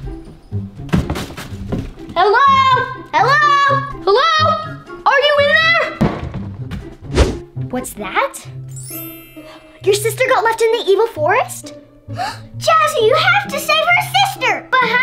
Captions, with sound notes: [sneaky music] Hello!? Hello!? Hello!? Are you in there!? What's that? [bells chime] Your sister got left in the forest? Jazzy, you have to save her sister!